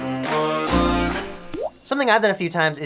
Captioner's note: water drop